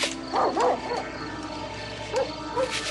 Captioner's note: dog barking